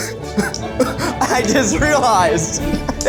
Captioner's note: laughs